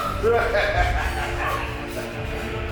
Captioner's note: Voldemort laughs